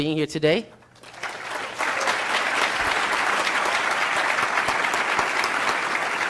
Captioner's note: applause